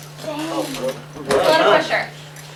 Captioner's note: chatter